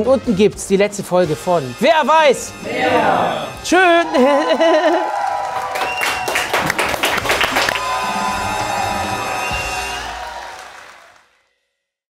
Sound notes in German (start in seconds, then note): 5.1 Jubel, Applaus; 6.4 Schlussakkord